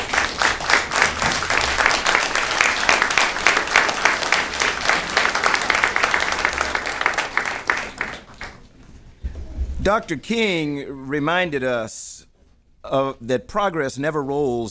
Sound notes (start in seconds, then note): 2.1 applause